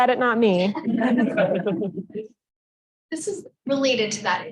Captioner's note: laughter